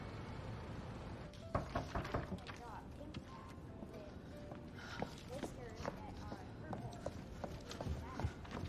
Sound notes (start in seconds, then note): 1.5 knocking at door